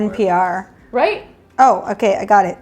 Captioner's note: man murmuring in the background